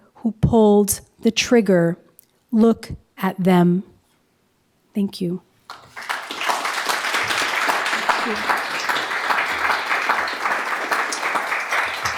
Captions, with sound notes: Look at them. Thank you. (audience applauding) Thank you.